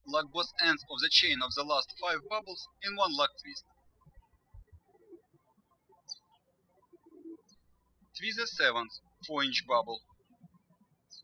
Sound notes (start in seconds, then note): 5.6 birds chirping